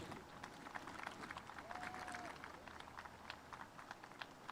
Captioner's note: spectators applauding